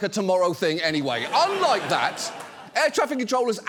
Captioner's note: studio audience laughs